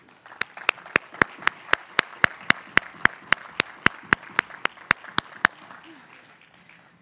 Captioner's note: applause